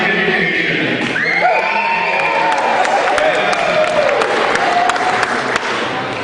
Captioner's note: cheering